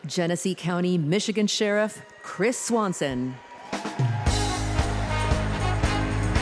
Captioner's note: applause